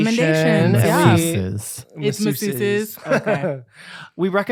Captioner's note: laughs